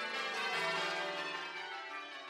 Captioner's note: bells ringing